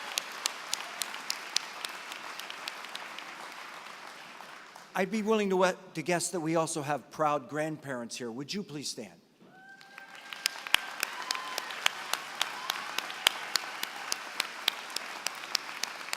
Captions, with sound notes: I'd be willing to guess that we also have proud grandparents here. Would you please stand? [APPLAUSE]